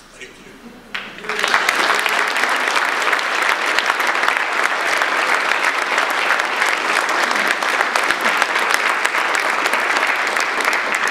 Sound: audience applause

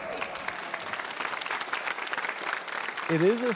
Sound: applause

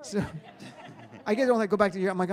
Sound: audience laughs

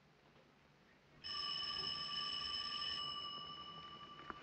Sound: ringing

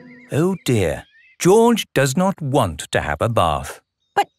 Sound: none

